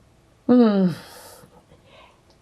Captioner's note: sighing